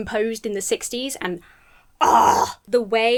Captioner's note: gushes